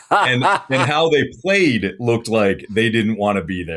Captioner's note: laughter